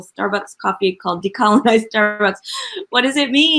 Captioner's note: laughs